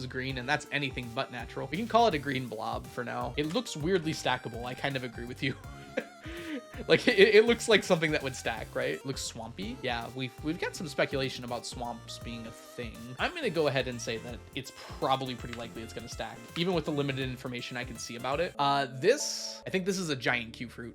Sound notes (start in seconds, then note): 5.8 laughs